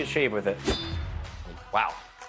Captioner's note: knife slicing